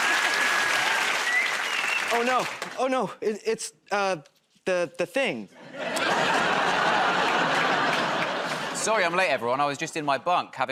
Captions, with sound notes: -[ Whistles ] -Oh, no. Oh, no. It's, uh, the -- the thing. [ Laughter ] -Sorry I'm late, everyone. I was just in my bunk